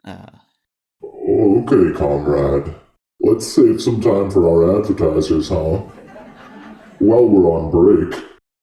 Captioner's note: laughter